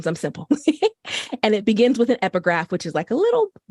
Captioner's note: laughter